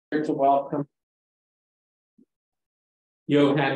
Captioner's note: audio cuts out